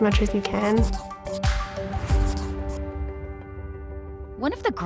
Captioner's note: pencil scratching